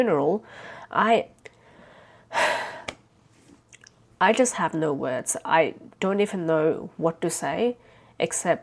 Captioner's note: sighs